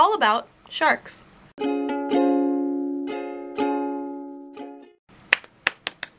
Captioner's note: clap clap clap snap; ukulele music; clap clap clap snap